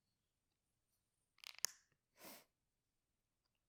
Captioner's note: bottle cap opens